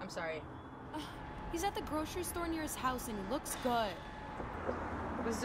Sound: sigh

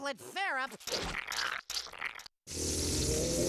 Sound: slurping

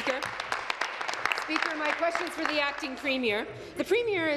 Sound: applause

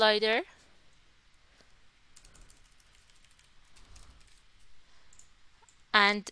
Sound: keyboard Clacking

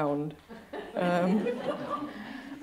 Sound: laughter

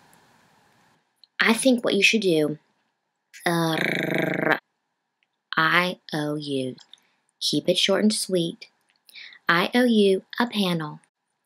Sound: rolls tongue

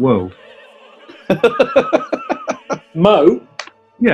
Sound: laughing

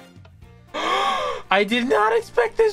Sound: gasp

